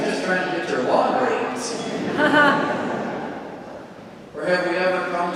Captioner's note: congregation laughing